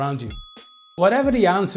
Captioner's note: bell ringing